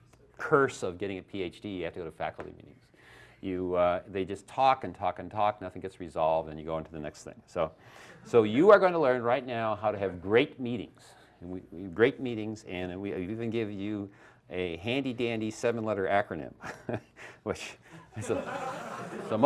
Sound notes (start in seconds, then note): 6.8 laughter; 17.9 laughs; 17.9 laughter